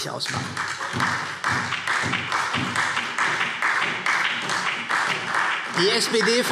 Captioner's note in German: Beifall SPD und vereinzelt Freie Demokraten